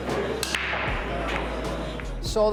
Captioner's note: balls hitting